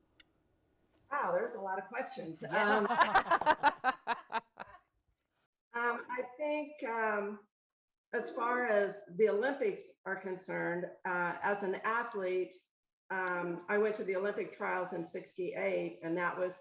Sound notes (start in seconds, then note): 2.4 laughing